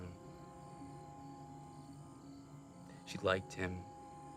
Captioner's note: crickets chirping; tense music